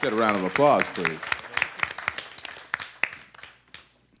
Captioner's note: audience applause